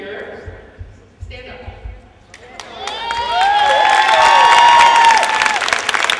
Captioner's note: applause